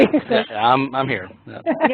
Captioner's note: laugh